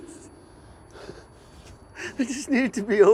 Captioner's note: piercing beeping fades